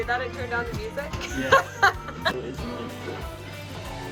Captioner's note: laughter